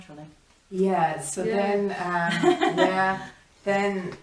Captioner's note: laughs